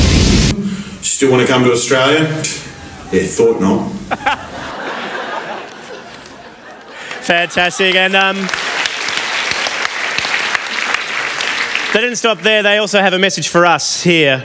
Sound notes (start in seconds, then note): 4.0 laughter; 9.4 applause